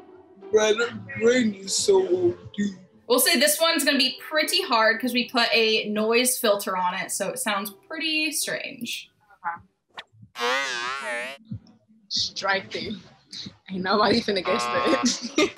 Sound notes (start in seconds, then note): 0.0 slowly, deep voice; 10.3 warped audio; 14.5 laughs; 15.3 warped audio